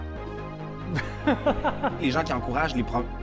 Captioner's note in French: rires